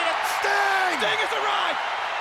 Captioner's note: audience cheers